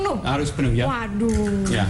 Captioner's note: non-english speech